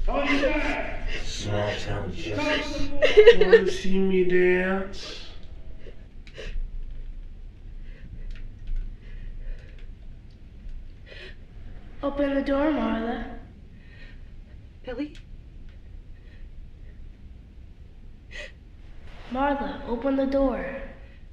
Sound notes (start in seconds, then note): 6.9 Marla sobbing